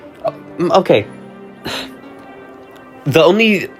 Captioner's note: sighs